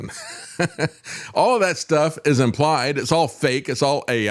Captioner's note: laughs